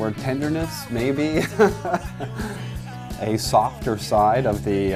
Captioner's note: laughs